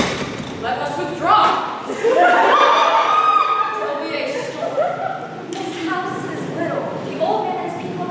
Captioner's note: laughter